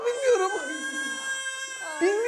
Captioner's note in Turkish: Bebek ağlama sesi